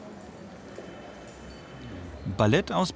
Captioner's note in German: Entfernter Straßenlärm